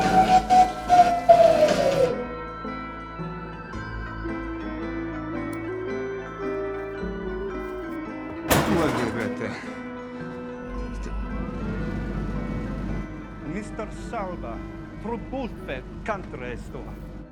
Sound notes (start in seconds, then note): 8.1 man speaking in unknown foreign language; 14.8 speaking in unknown foreign language